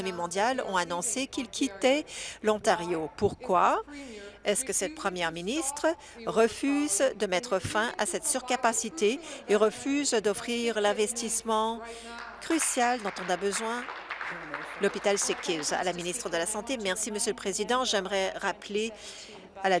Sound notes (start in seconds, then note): 15.2 applause